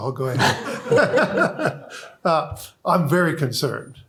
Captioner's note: laughter